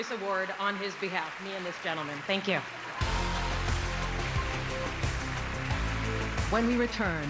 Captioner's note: cheers and applause